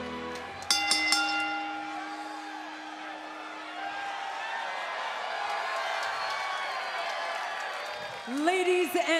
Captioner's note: bell ringing